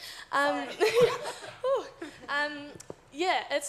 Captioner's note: audience laughs